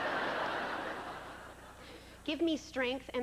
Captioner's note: laughter